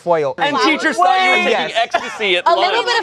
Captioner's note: laughs